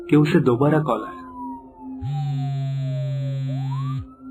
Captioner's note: phone ringing